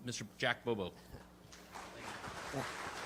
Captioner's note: audience applauding